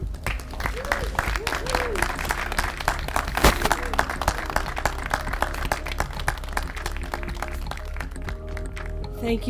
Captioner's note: applause